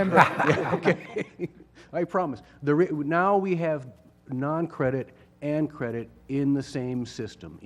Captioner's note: laugh